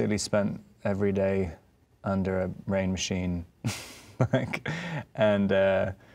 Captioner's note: laughing